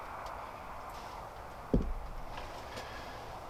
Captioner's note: wind whirring